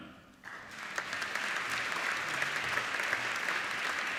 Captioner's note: applauding